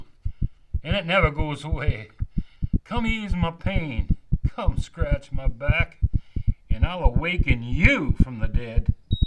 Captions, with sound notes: And it never goes away. [heart beats escalate] Come ease my pain. Come scratch my back. And I'll awaken you from the dead.